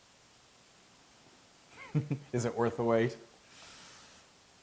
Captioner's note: laugh